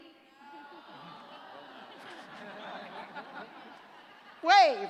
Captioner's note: laughter